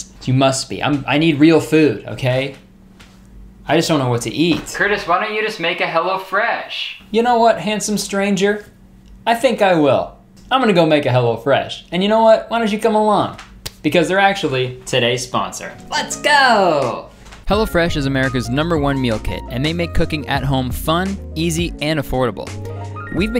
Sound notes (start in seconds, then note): 13.4 hands clapping; 15.7 cheerful music